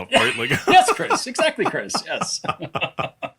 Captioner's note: laugh